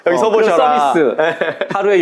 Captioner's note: laughs